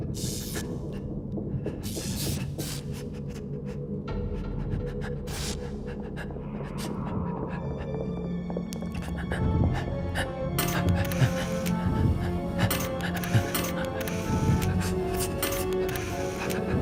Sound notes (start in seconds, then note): 0.6 electric interference; 9.7 ominous music starts; 14.3 Fleques panting heavy